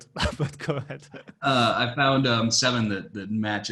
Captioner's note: laughing